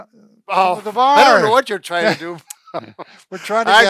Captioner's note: both laughing